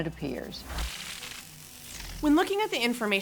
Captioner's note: inquisitive music; transition whooshing